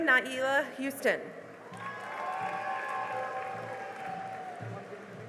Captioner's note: cheering and applause